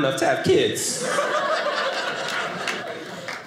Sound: audience laughing

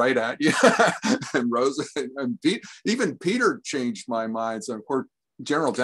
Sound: chuckles

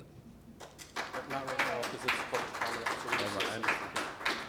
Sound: applause

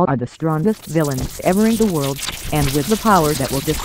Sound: lightning sparks

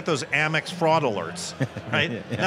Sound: laughs

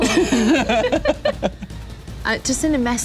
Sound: laughing

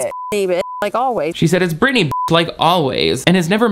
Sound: beep

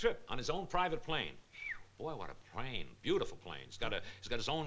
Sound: whistles

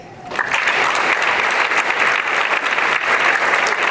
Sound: applause

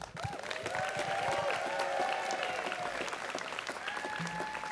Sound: students cheering

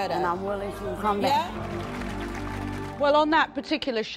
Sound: applauding

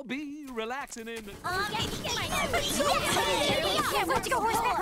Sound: overlapping chatter

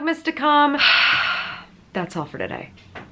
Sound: exhales

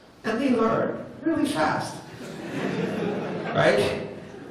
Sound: laughter

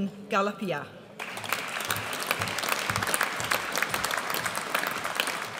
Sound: audience applauds

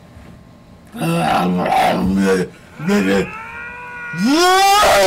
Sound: mocks the hedgehogs' panting

